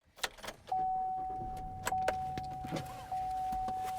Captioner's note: car starting